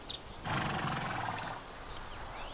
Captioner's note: horse snorts